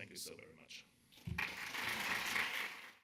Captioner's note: audience applauding